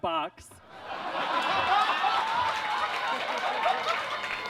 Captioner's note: audience laughs